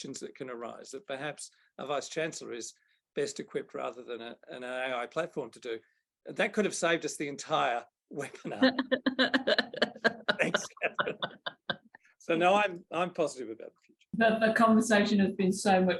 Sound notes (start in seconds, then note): 8.4 laughter